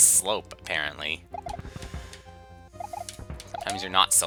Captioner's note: breathing